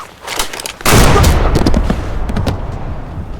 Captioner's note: gunshots